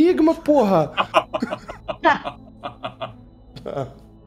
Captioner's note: laughter